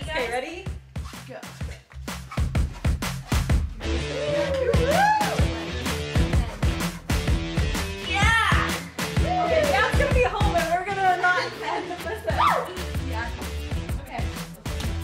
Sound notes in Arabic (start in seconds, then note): 3.0 موسيقى الروك الشديدة; 3.9 الفتيات يهتفن